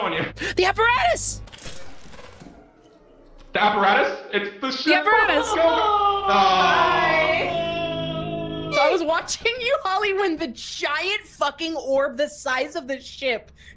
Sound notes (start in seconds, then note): 0.4 gasps; 1.3 electrical sparks; 5.0 cries